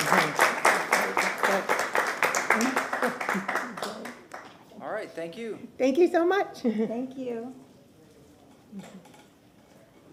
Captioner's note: applause